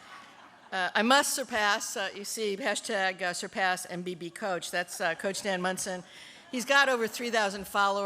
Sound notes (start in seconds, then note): 0.0 laughter